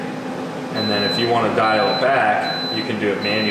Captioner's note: beeping